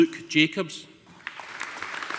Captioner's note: audience applauding